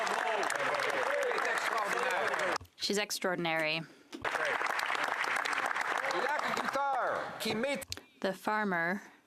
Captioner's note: applause